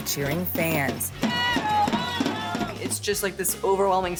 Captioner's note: team supporter cheering indistinctly